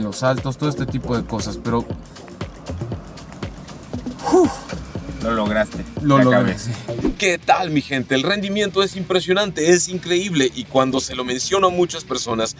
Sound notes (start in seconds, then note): 4.1 sighs